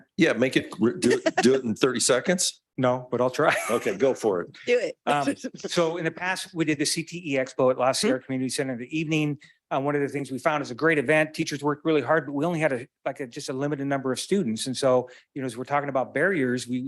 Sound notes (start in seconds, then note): 3.4 chuckles